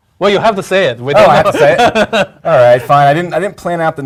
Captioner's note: laugh